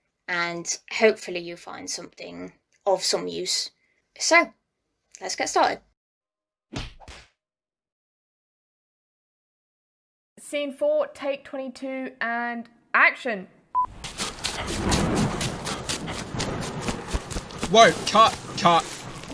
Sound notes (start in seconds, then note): 13.8 footsteps and thunder